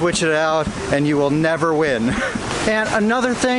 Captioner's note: laughing